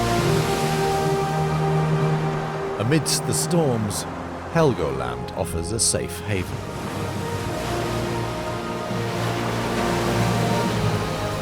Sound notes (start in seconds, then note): none